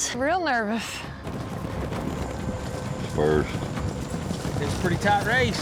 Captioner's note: fast hoofbeats